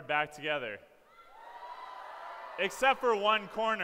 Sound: cheering

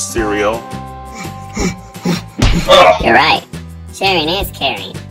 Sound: breathes heavy

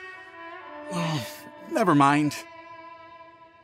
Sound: sigh

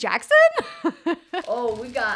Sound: laughing

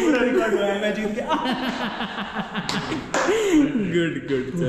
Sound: laughing

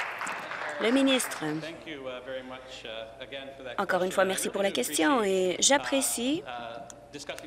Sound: applause

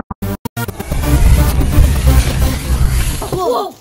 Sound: whirring and whooshing

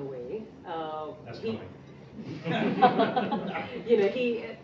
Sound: laughing

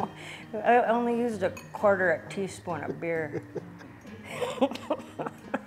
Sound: laughs

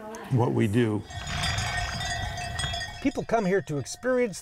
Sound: cowbell rings

